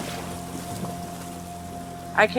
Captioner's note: waves crashing